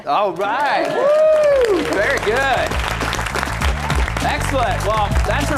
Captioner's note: applause